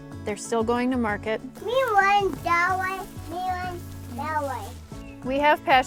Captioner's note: young child babbling